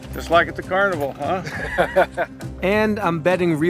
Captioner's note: Baratunde laughing